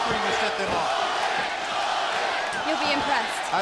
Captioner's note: crowd cheering